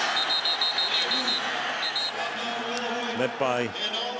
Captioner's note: whistle